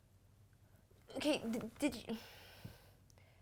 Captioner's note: sigh